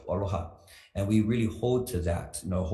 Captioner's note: speaks foreign language